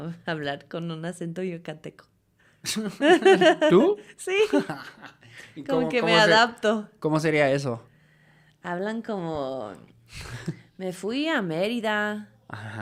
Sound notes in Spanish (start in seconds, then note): 2.6 risas